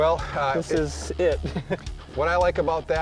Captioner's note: laughs